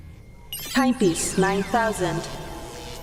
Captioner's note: robot voice